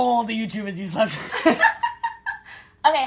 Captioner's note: laughter